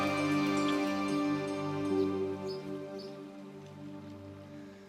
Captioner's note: none